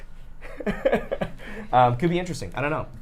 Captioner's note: laughs